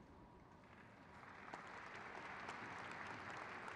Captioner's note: crowd claps